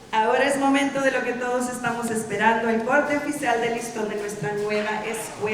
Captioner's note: speaking in Spanish